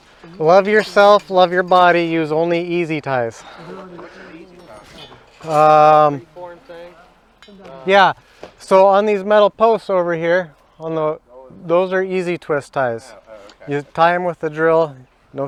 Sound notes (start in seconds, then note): 3.8 indistinct background chatter